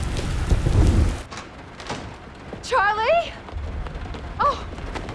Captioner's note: door opening